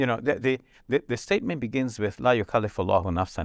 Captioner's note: speaks verse in Arabic